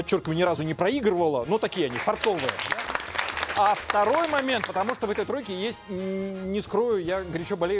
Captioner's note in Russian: аплодисменты